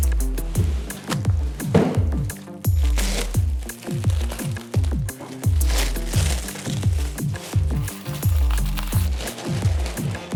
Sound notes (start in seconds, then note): 2.7 plastic rustles